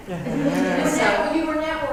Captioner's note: laugh